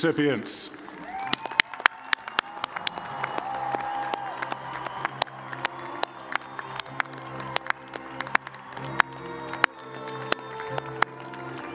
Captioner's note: cheers and applause